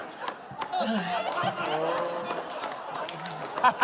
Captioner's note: sighs